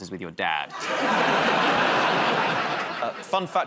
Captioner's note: laughter